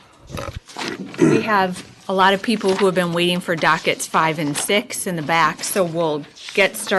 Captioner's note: clears throat